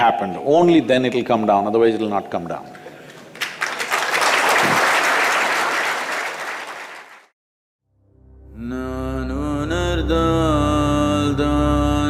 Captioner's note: applause